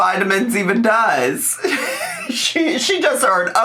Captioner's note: laughs